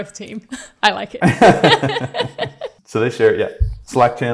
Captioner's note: chuckling